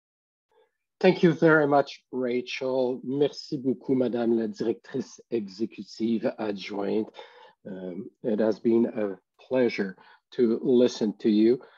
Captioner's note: French language